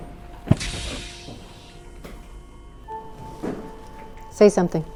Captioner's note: spacesuit hisses